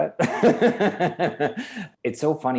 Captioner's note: laughs loudly